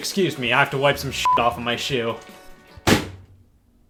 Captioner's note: beep; bang